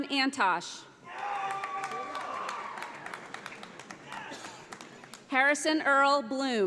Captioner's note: audience applauds